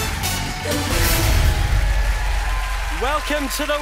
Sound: cheering

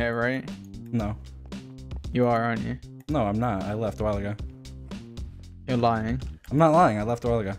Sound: none

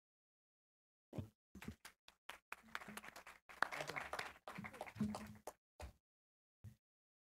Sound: applause

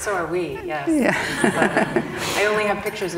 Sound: both laugh

